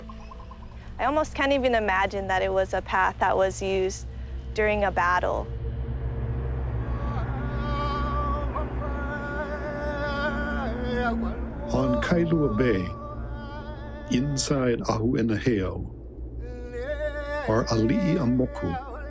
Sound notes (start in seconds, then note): 6.7 wind, chanting